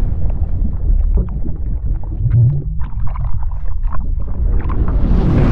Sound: explosion; underwater bubbling

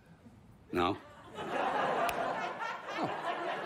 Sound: snaps

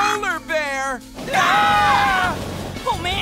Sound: screaming

